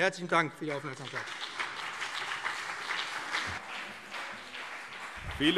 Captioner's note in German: Beifall BÜNDNIS 90/DIE GRÜNEN und CDU